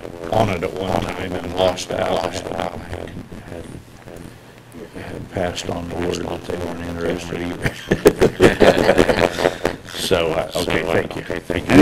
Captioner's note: laughter